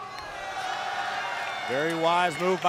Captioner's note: crowd cheering